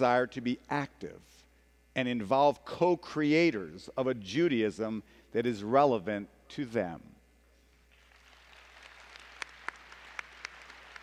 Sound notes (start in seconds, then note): 7.9 applause